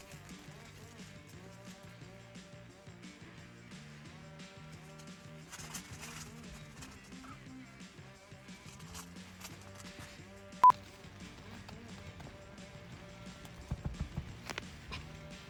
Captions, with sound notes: (film reel beeping) (upbeat music) (tent rustling) (film reel beeping) (upbeat music)